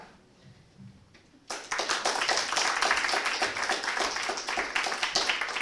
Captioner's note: applause